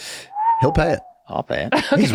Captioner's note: Charlie whistles